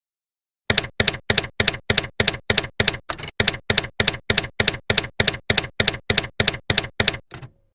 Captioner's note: typewriter keys clacking